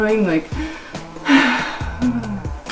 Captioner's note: sigh